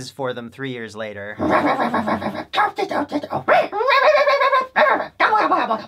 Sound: various sock monster noises

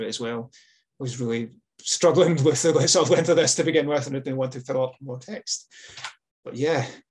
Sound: laughs

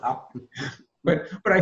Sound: laughs

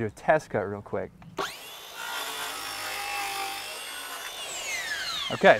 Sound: saw whining, no additional audio

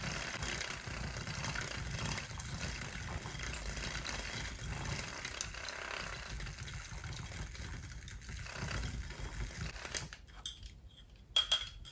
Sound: frother sounds

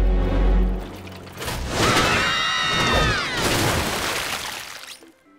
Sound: screaming

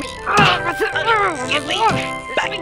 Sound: struggling noises

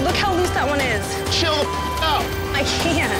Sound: beep

